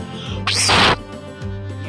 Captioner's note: fwhhiiiirrrrrhhhhh!!!!!